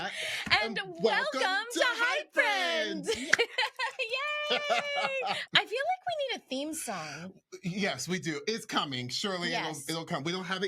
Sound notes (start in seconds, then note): 2.3 laughing; 3.8 giggles